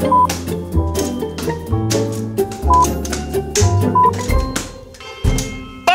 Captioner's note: bouncing balls